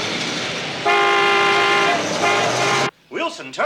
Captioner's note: honking